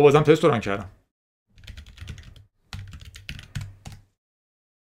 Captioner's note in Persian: صدای کیبورد